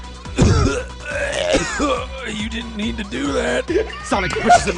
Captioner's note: coughing